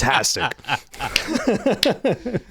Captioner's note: laughing